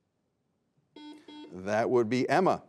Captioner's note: buzzer beeping